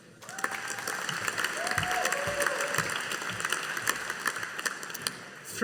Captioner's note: audience applauding